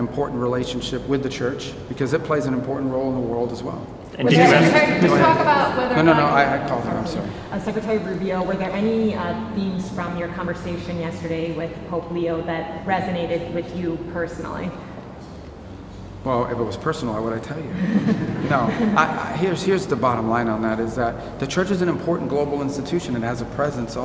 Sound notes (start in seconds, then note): 17.6 laughter